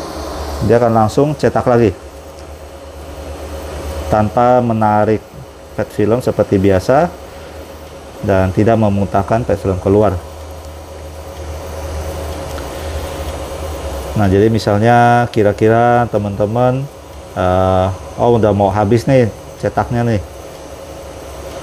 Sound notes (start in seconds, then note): 0.2 printer machine noise